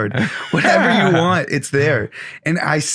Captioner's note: laughing